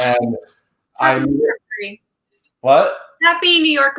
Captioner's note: gasps